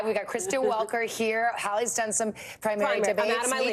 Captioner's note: laughter